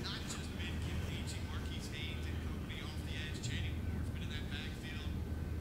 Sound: TV Announcer speaking

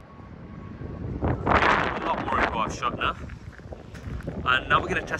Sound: wind blowing

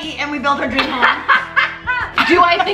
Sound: laughs

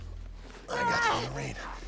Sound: Perez yelling

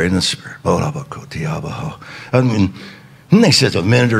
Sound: speaking in foreign language

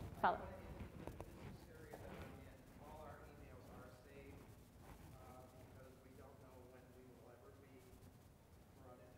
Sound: off microphone

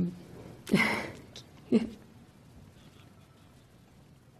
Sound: laughs

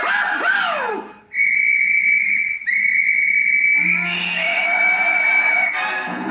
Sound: whistle Blows

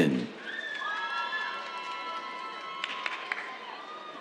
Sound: cheers

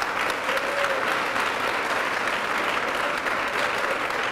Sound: applause

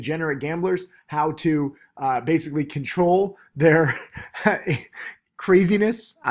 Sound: laughs

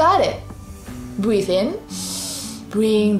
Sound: breathes in deeply

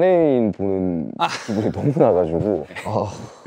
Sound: haha

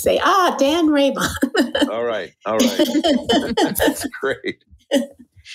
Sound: chuckle

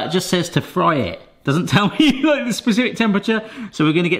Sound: laughs

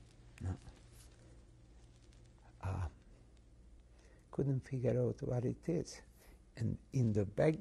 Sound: pauses for 3 seconds

